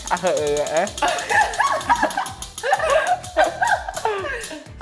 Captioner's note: laughter